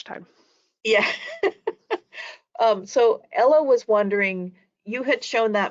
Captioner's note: laughs